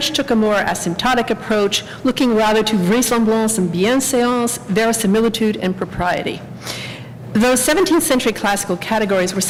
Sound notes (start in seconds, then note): 3.1 french